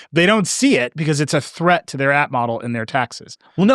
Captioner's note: none